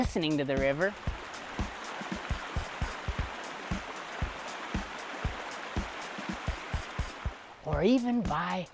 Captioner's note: river Flowing